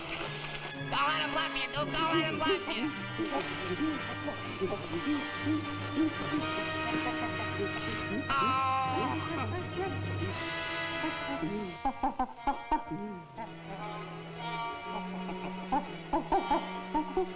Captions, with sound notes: Don't let him laugh at you, Duke. Don't let him laugh at you! (gorillas chittering) Oh! (chittering continues) (whimsical music)